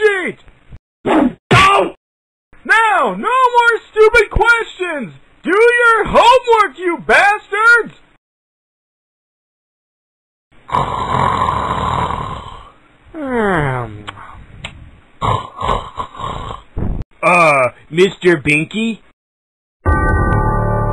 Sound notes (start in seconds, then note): 10.6 snoring sounds